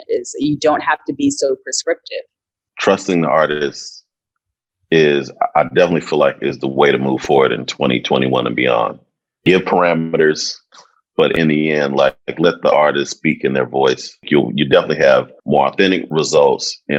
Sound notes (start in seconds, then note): none